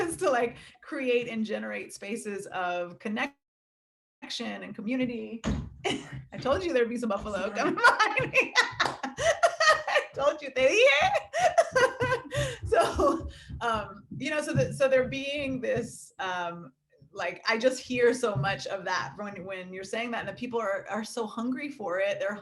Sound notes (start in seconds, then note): 7.2 laughing